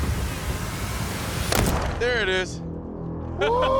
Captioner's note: gunshot; laughs